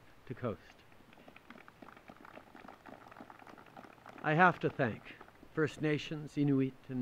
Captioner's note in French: Applaudissements